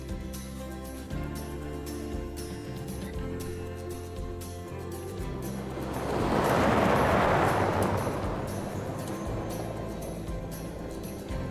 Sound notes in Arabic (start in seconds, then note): 5.5 خرخرة المحرك